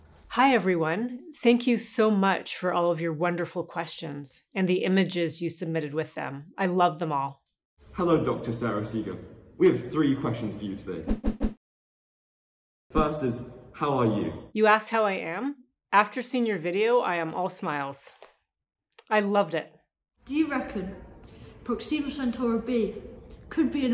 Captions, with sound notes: Hi, everyone. Thank you so much for all of your wonderful questions, and the images you submitted with them. I love them all! Hello, Dr. Sara Seager. We have three questions for you today. [Swooshes] First is, how are you? You asked how I am? After seeing your video, I am all smiles. I loved it! Do you reckon Proxima Centauri B could be an